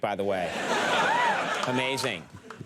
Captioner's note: crowd laughs